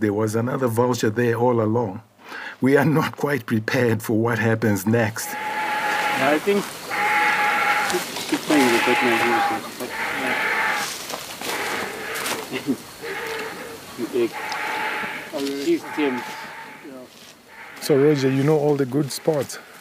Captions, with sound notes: was another vulture there all along. We’re not quite prepared for what happens next. [sounds of vultures mating] So Roger, you know all the good spots.